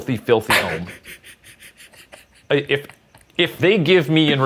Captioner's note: laughing